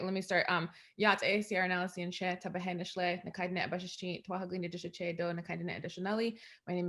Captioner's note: speaking in indigenous language